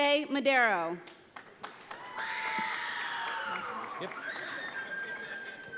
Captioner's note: audience applauds